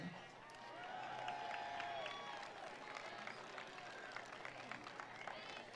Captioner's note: attendees applauding; attendees cheering